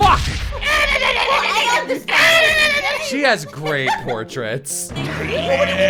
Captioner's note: screaming